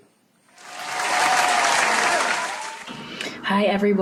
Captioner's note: applause